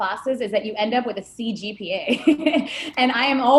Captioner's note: laughing